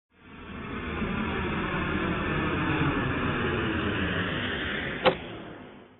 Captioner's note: sound of airplane landing